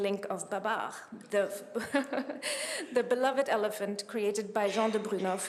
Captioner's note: chuckles